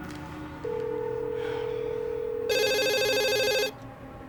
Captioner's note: phone ringing